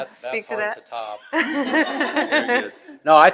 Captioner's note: attendees laughing